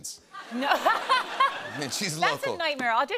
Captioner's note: laughs